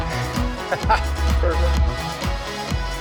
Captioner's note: laughs